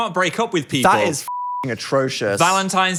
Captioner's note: beep